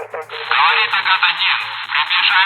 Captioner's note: in Russian